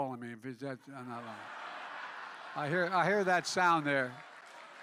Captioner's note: laughter